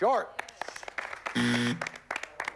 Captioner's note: buzzer